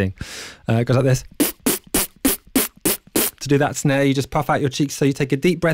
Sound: beatboxing

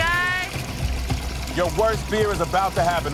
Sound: water splashing

